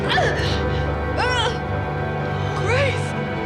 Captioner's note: screams; groans